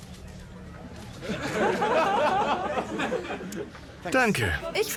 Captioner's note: audience laughing